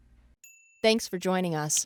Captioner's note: bell dings